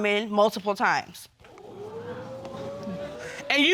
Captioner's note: audience exclaiming